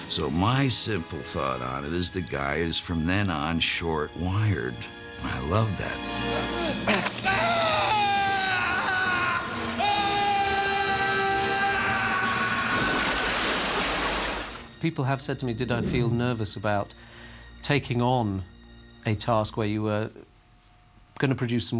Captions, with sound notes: So my simple thought on it is the guy is, from then on, short-wired. And I love that. [SCREAMS] People have said to me, did I feel nervous... ...about taking on a task where you were gonna produce some work...